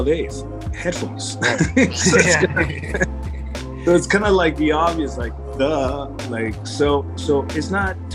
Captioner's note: chuckling together